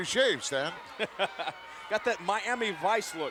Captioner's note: laughing